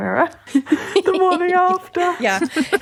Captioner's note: laughing